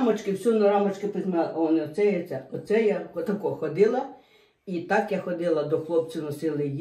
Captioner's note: Ukrainian